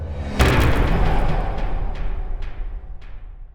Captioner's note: impact